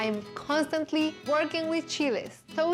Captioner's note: none